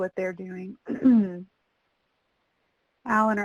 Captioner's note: clears throat